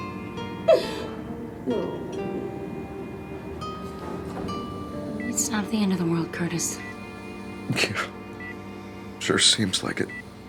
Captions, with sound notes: No. (air hissing) (machine beeping) It's not the end of the world, Curtis. - Yeah, sure seems like it.